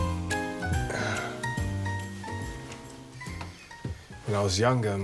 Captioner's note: Nikolai sighing